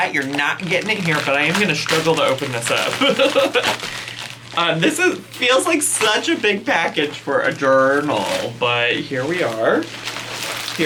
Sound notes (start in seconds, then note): 3.0 laughs